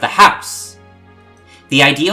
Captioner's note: breathe